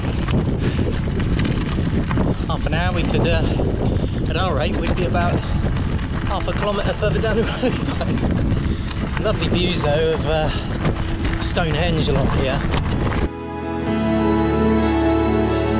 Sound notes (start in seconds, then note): 7.3 laughs